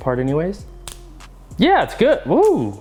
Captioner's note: snapping